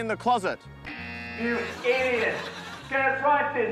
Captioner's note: buzzer